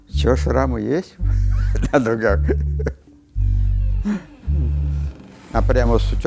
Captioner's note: laughs; laughs